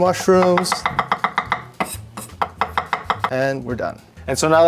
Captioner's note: knife chopping